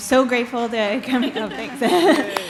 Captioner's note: applause